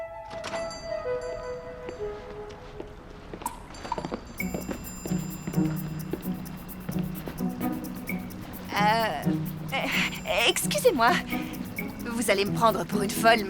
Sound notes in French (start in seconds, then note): 0.4 sonnette sur la porte